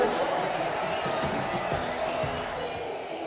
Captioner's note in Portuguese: aplausos